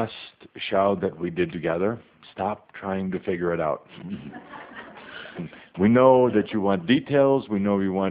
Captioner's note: some laughter